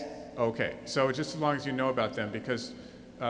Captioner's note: voiceover